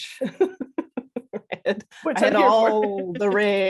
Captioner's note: laughter